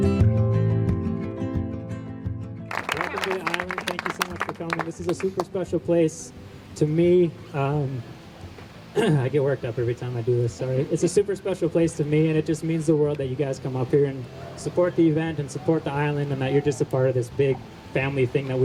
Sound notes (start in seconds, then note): 2.6 crowd applauds; 8.9 clears throat